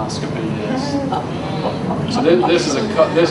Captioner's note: audience laughs and agrees